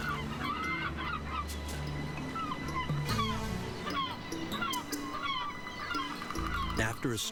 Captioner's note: gulls squawking